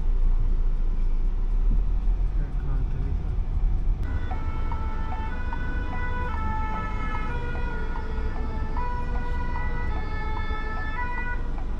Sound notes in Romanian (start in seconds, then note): 4.0 Sirene de pompieri